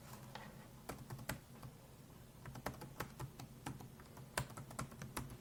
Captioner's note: clacking on keyboard